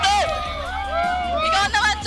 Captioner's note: shouting